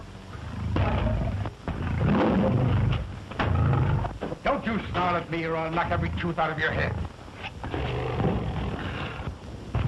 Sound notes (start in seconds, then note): 0.4 roars; 7.6 snarls